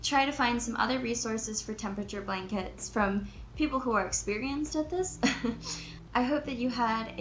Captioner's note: chuckles